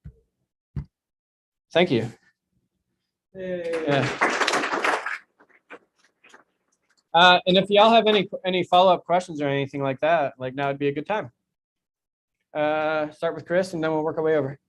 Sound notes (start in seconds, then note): 3.6 clapping